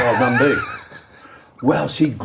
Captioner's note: laughing